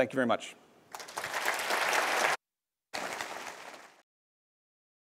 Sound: applause

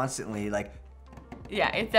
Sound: tapping

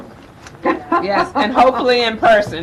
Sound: laughs

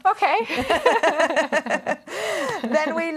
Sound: laughter

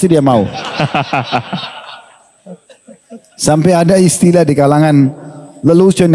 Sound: laughs

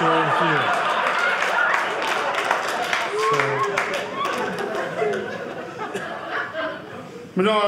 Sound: audience clapping

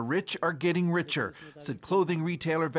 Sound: speaking alternate language

